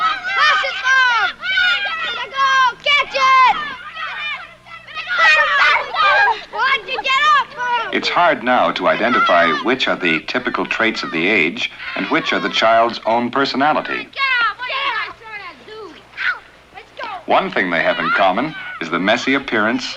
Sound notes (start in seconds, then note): 0.0 children yelling excitedly; 4.2 children clamoring